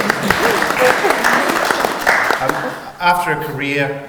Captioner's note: audience applauds